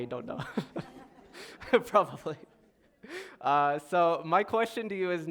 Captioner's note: laughter